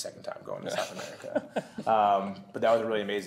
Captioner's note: laughter